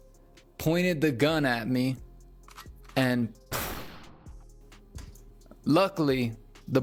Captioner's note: gun shot